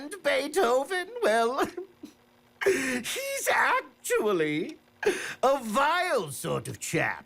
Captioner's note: laughing